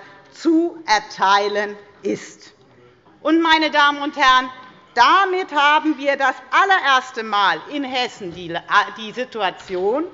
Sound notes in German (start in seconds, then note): none